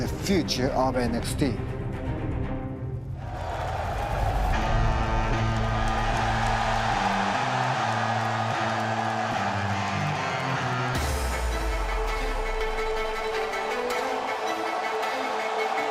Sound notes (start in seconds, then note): 4.7 cheers and applause